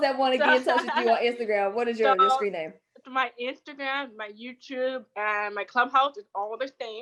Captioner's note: laughs